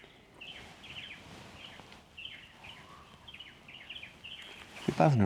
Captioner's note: birds chirping